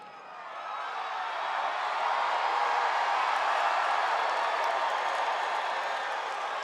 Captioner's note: applause